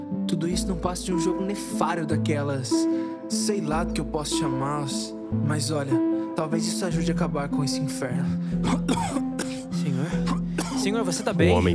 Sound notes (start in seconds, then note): 8.6 the person cough; 8.6 the person coughs